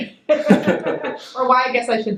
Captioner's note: laughs